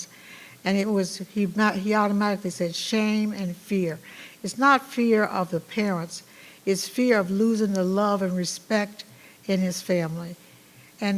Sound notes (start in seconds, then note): none